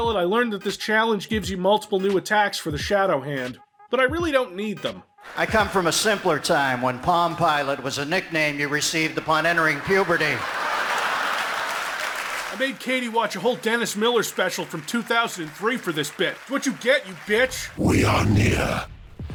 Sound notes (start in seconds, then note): 10.8 laughs and cheers